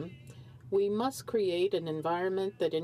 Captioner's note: speaking french